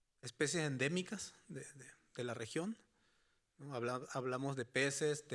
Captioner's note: speaking Spanish continues